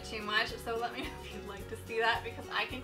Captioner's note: laughing